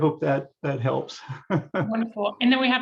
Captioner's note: laughs